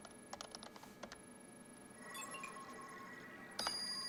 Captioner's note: alarm; bell